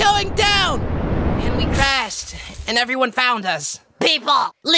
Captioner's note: crashing sound